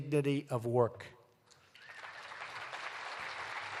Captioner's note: applause